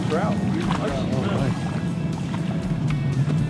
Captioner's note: splashes